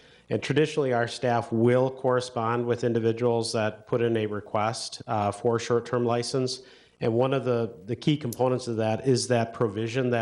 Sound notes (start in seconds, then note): none